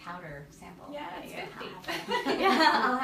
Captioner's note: laughs